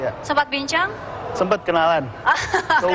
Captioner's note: non-english speech; laughs